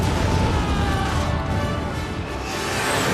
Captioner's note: yells